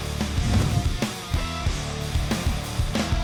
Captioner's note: whooshing